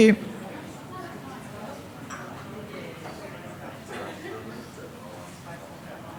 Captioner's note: indistinct background chatter